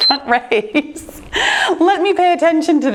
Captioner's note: timer beeping; laughing